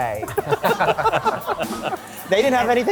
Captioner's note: laughter